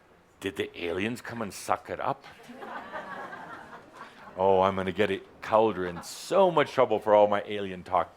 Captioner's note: laughter